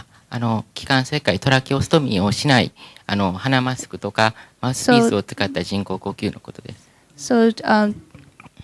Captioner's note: speaking japanese